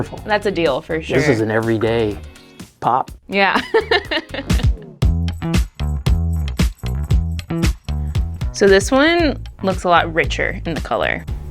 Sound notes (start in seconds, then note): 3.6 laughing; 5.1 upbeat music